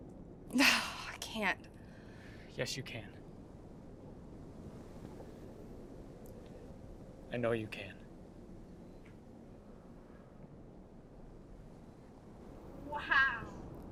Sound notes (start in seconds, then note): 0.6 sighing